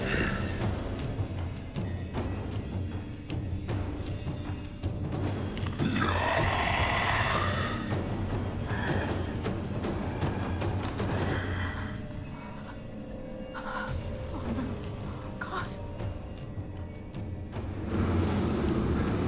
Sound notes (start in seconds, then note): 0.2 Grace snarling; 5.8 mummy snarling